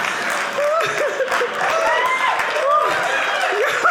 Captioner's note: audience laughing; audience clapping